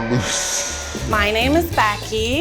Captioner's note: siren blaring